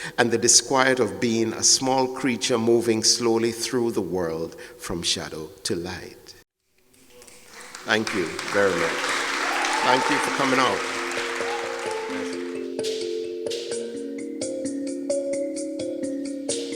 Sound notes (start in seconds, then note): 9.1 audience claps and cheers; 11.6 soft melodic music